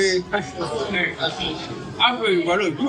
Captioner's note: background bar noise